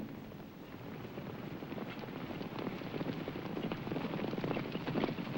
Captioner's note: horses galloping